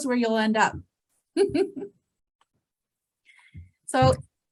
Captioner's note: chuckles